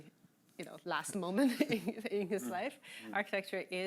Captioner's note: chuckling